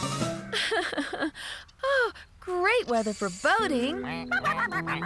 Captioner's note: laughing; ducks Quacking